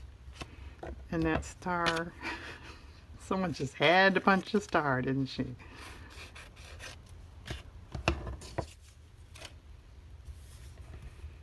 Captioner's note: laughs